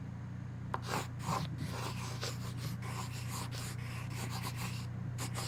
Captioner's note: pencil scratches